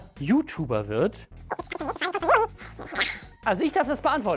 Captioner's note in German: Quatsch-Sprache